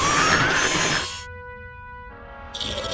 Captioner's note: hooves screeching; metal grinding; growls